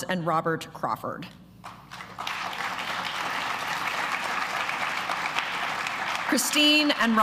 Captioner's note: applause